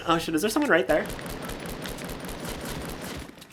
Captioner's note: gunfire